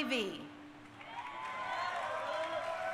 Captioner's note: crowd cheering